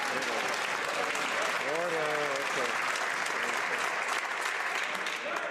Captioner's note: some Applause